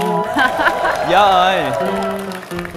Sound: bad Vietnamese

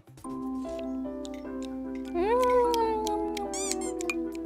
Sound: slurp, nom, nom, nom

